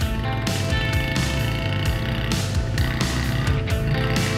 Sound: engine revs

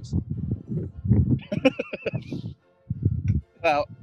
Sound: laughing

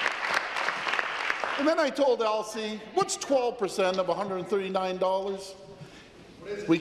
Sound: applause

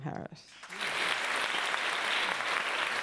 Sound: applause

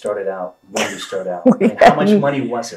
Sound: laughs

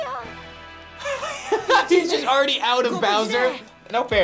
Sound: laughs

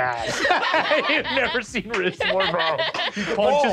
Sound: laughs

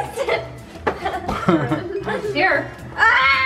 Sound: laughs

